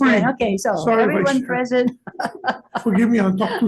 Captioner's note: laughs